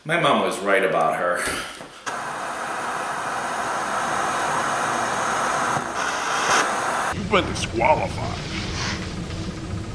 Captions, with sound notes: My mom was right about her. (static) You've been DisQualified.